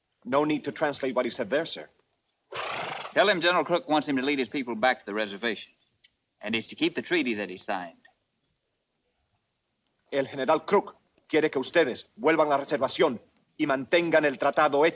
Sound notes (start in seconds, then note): 0.0 Victorio speaks Spanish; 10.2 Ramirez speaks Spanish